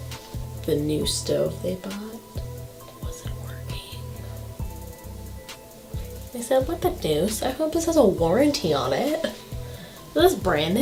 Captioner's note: whispers